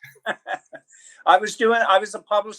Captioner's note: chuckle